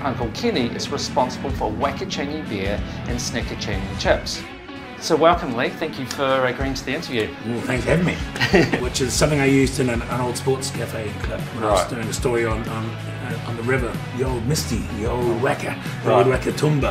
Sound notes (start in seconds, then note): 8.1 giggling